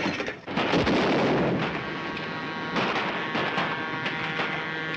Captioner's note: train whistle blows